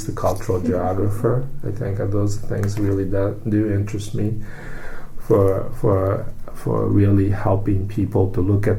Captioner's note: laughs; takes breath